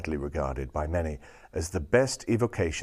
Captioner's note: none